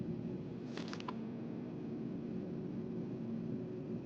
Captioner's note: paper rattling